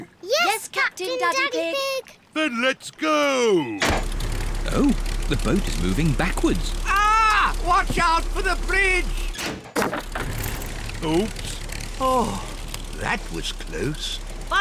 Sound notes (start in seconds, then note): 3.5 lever clunks; 9.5 crunching